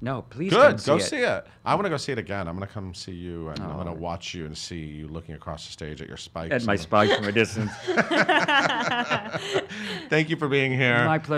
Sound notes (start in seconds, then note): 6.9 laughing